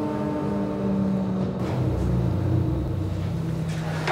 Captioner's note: loud whirring noise